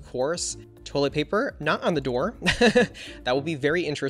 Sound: laughs

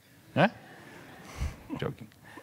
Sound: audience laughing mildly; chuckling

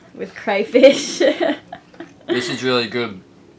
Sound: laughing

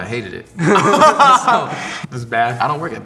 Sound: all laugh

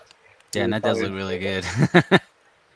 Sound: laughing

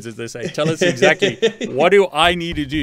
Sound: laughing

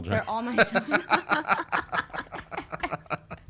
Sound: laughing

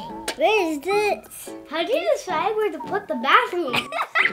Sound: giggles

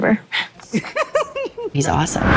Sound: scoffs; Noah laughs

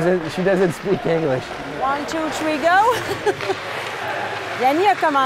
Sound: laughs

